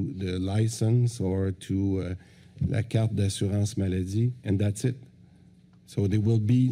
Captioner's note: french